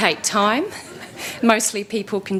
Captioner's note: laughter